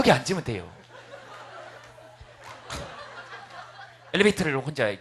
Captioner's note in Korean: 웃음